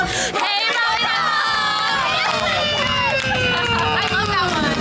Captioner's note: people cheering